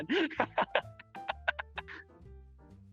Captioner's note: laughing